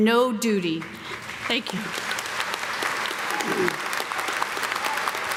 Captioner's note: audience clapping